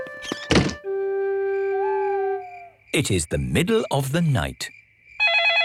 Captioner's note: owl hooting; phone ringing